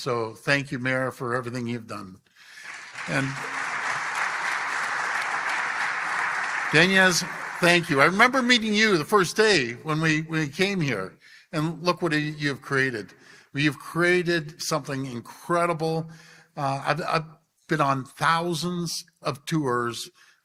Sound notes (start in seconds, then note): 6.1 applause